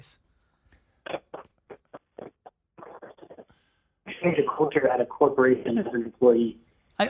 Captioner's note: static